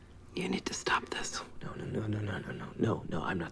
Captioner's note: none